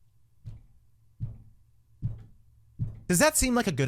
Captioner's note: thudding loudly